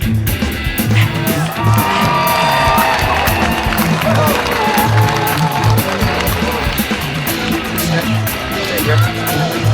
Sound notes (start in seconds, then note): 0.8 audience cheering and applauding